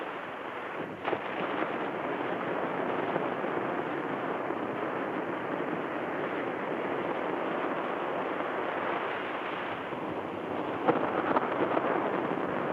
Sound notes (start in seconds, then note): none